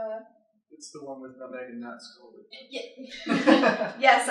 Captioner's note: laughter